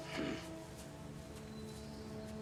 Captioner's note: grunts